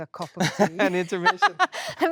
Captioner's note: Jessie laughing